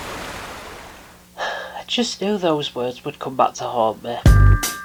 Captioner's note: sigh